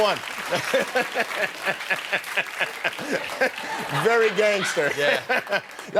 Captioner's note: laughs